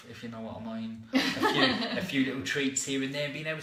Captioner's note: laughter